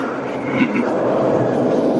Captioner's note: grunts; chuckle